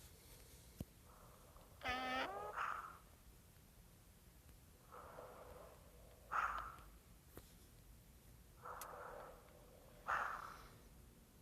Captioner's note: ringtones